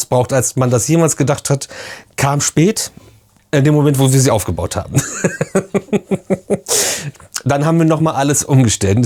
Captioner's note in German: gelächter